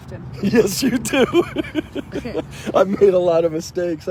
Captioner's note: father laughing